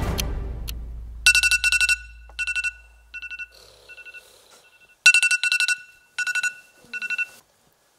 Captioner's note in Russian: Звенит будильник